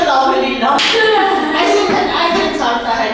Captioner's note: laughing